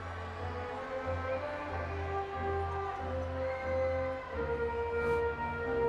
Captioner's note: audience continues cheering